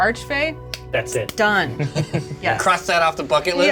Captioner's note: claps